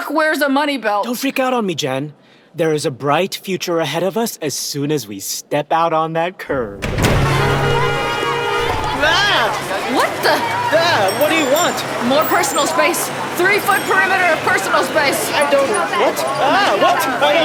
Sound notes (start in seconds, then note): 6.5 door opens, overwhelming noise of traffic, horns honking, people speaking